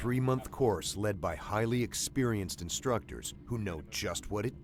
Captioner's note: voiceover